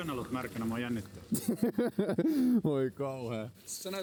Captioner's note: laughter